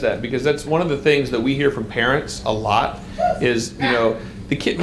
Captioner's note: audience member cries out